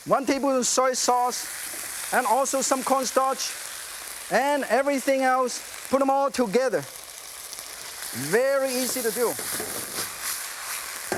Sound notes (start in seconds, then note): none